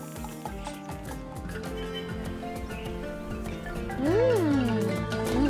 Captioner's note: birds chirping